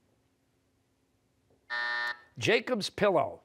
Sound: buzzer

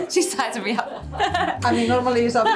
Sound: laughter

